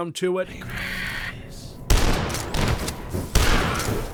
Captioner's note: Super Shotgun fires